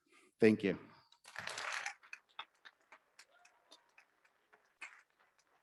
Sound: audience clapping

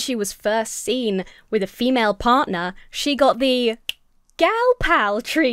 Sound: snaps fingers

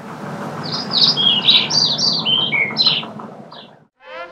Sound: birds chirping

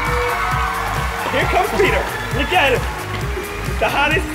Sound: cheers and applause

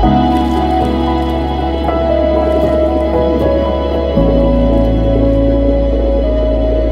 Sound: under-water gurgling sounds

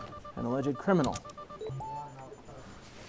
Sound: electronic beeping

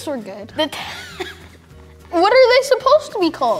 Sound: laughs

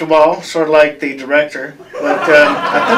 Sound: laughter

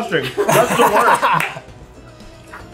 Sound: laughing

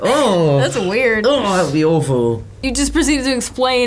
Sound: groans; groans

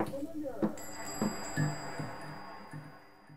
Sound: bell on the door rings

